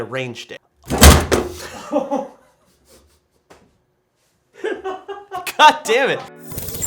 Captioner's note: laughs loudly; rifle clatters; soft music